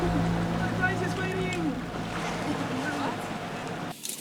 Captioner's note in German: entfernte Rufe